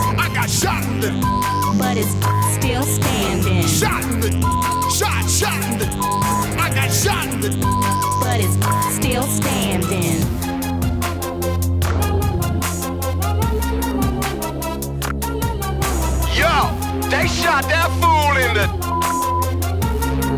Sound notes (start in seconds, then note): 1.2 beep; 4.4 beep; 17.1 beep